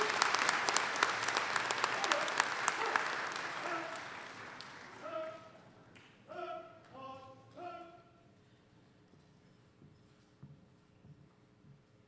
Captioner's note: cheers; applause